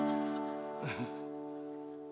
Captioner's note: laughter